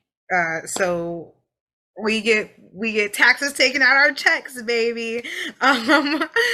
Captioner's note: laughs